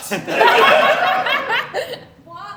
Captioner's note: laughter